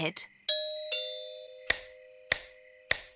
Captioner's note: doorbell chimes